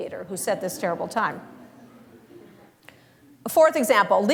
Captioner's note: laughter